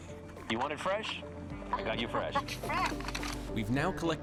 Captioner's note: laughs